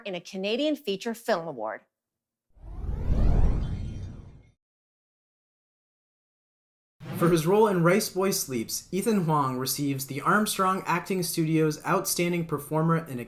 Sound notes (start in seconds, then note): 2.6 transition sound